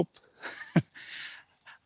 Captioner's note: he laughs